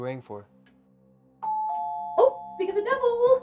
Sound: doorbell

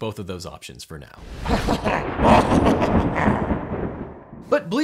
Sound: laughs

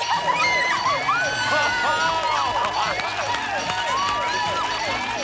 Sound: bell dinging, alarm whooping

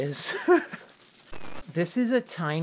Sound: laughs; static

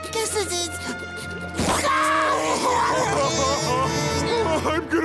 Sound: crying

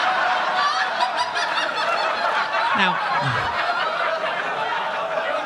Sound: audience laughing

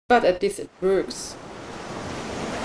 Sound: ocean waves, outro

